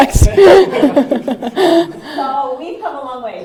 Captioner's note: laughter